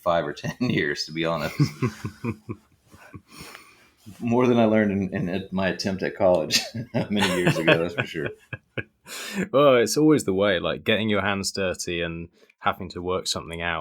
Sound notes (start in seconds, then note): 3.8 laughs